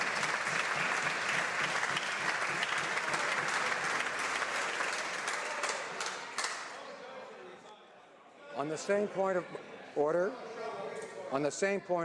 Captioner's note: some Applause